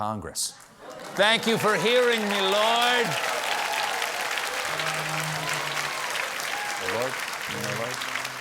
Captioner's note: applause